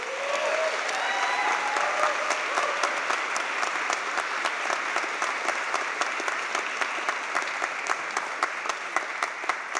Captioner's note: applause